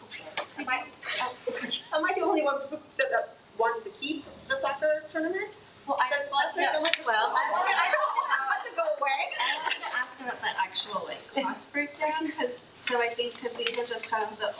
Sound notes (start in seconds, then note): 6.4 attendees chattering